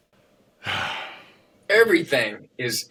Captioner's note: deep sigh